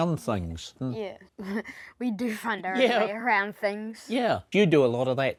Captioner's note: chuckles